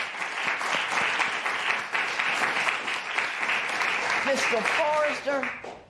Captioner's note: applause